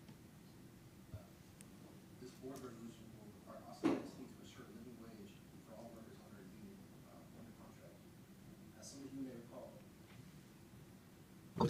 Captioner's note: away from microphone